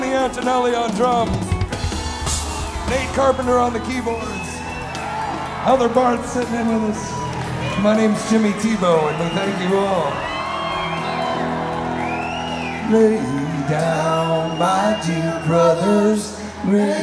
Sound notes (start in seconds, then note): 2.1 crowd cheers; 4.8 crowd cheers; 11.6 crowd cheers